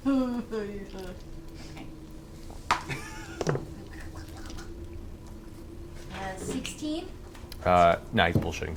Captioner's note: groans